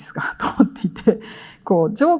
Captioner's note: chuckles